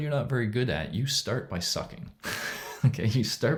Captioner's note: chuckles